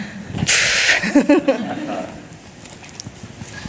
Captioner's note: laughing